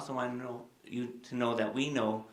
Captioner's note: none